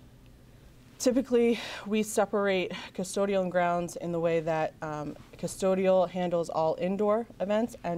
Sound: none

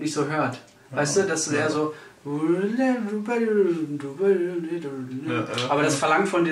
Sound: imitates sax

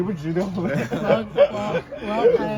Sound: laughing in style

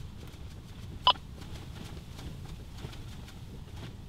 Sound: radio beeps

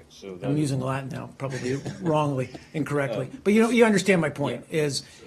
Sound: laughter

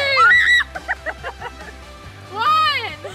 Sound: screams

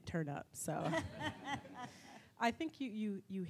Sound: audience laughs

